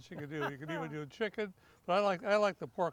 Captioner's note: laughs